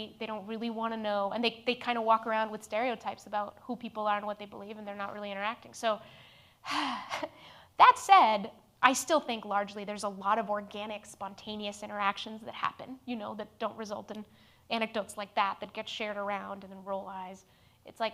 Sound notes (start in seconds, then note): 6.7 sighs